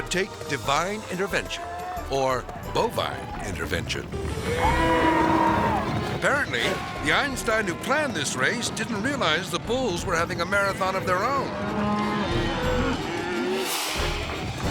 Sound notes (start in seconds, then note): 4.4 cows mooing; 4.4 people yelling; 11.4 cows mooing